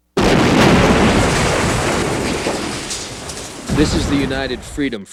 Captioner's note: thunderous explosion